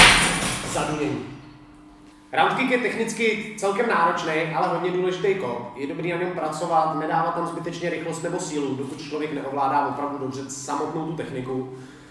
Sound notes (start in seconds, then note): 0.7 definetly thunder